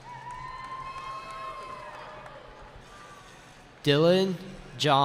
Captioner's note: cheering